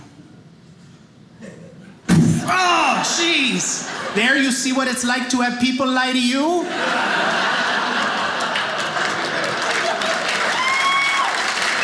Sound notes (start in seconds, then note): 2.1 bam; 7.0 audience applauding